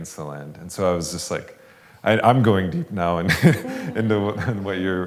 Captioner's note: laughs